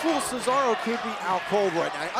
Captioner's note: crowd cheering